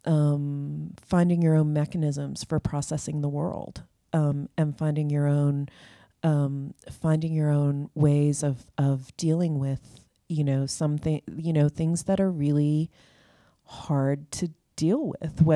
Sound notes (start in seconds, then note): none